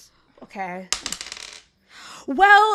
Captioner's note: dice clacks